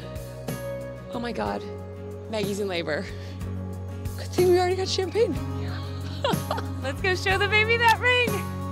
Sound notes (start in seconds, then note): 5.7 laughs